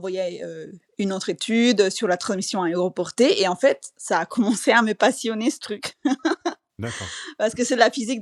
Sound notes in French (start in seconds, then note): 5.9 rires